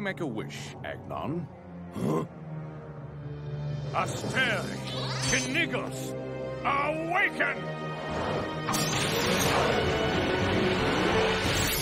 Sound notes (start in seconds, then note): 1.9 grunting